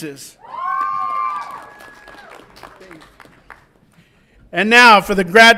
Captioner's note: audience applauds and cheers